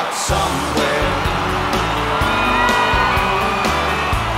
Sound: crowd cheering

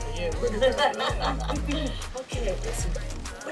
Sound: laughing

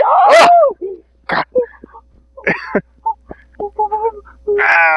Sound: wimpers

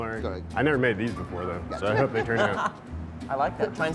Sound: judges laughing

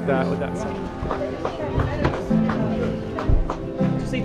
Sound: people chattering

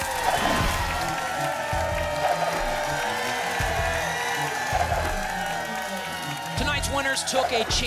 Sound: audience applause

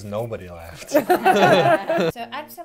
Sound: laughter

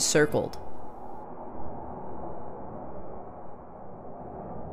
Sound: wind blowing

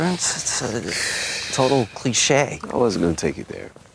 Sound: sighs

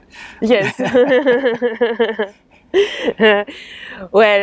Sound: laughs

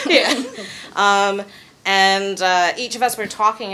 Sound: chuckling

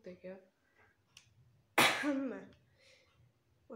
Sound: cough

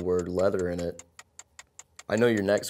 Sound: ticking

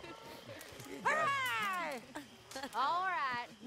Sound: Jack, John and Abigail starts to leave the campfire laughing

